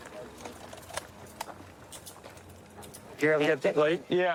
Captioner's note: handcuffs clicking